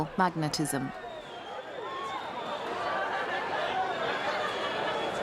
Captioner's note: crowd murmuring